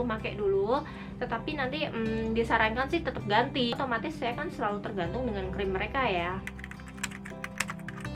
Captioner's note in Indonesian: mengetik